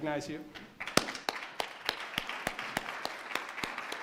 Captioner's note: applause